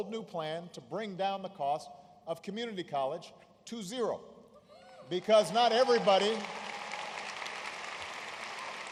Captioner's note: applause